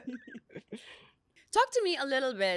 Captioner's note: laughs